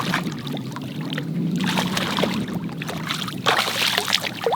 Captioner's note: fish splashes